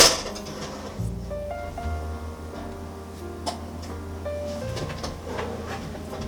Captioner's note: heated oven